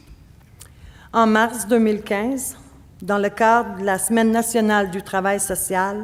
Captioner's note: speaking French